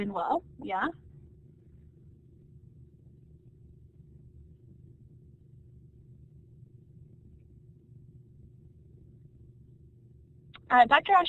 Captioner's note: silence